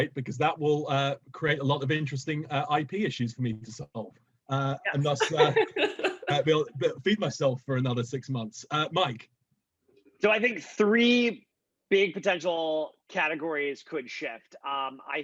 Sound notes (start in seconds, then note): 4.9 laughing